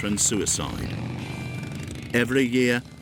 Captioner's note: engine rumbling